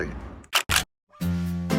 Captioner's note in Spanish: Camera shutter